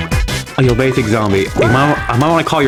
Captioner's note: something in Spanish